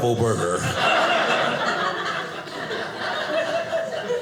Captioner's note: audience laughing